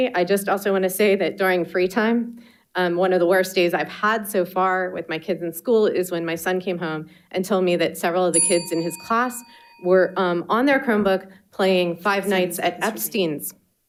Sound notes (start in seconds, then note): 8.3 bell dinging